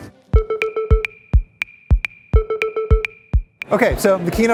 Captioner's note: electronic beeps